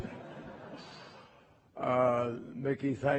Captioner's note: laughter